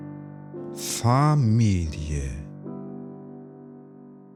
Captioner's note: german